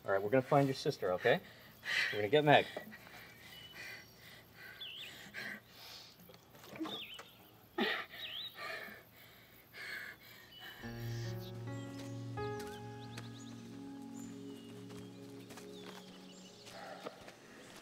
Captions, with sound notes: All right, we're gonna find your sister, okay? We're gonna get Meg. (Margo gasping) (somber music) (birds chirping)